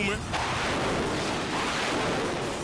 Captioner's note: jets whoosh